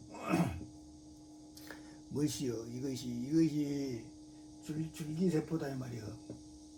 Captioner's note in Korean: 목을 가다듬음